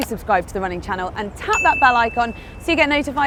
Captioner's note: bell chimes